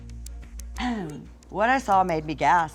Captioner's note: clears throat